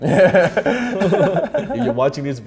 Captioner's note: both laugh